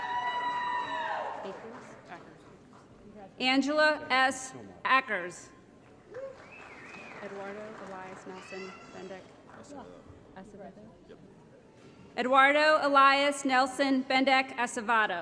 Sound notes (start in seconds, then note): 0.0 applause & Cheering; 6.0 applause